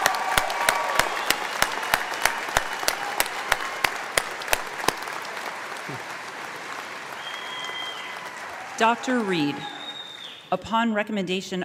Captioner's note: applause